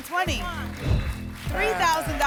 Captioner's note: whoosh